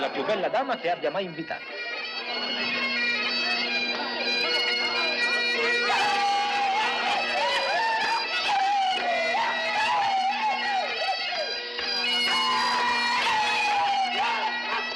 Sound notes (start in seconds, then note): 2.3 bagpipes playing; 5.7 laughing, shouting